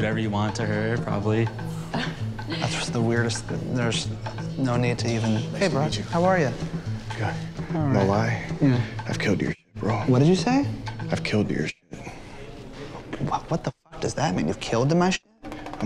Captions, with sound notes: You could do whatever you want to her probably. -(Chuckles) -That's the weirdest... T-There's, uh, no need to even... -Hey, bro. How are you? -Nice to meet you. Good. -All right. Yeah? -No lie, I've killed to your shit, bro. -What did you say? Killed to your shit. The fuck does that mean?